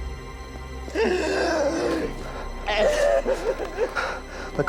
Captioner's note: crying